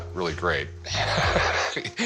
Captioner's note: laughs